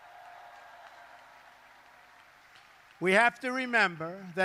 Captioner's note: applause